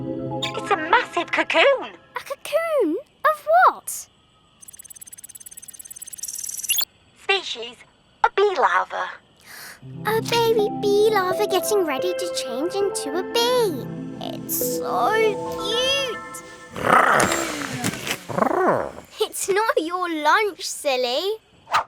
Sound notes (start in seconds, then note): 16.1 big Lizard purrs